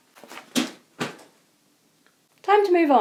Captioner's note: thud